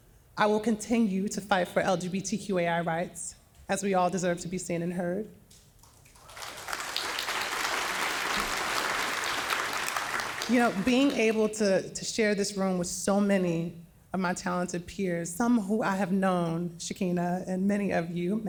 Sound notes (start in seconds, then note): 5.8 audience applauding